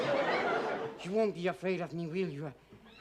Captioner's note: laughter